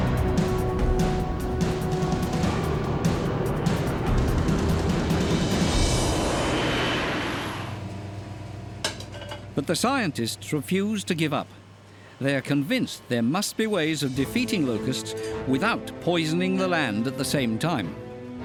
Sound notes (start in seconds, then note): 5.7 airplane rumbling